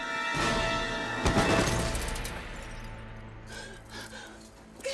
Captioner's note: chop thudding; dramatic music; Tory thudding; Nikita gasping